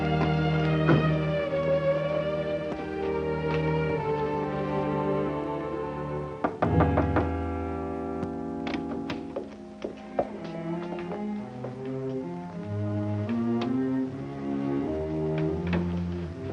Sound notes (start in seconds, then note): 6.4 knocking; 8.1 tense instrumental music